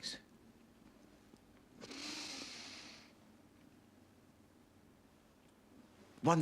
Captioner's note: tarik napas dalam-dalam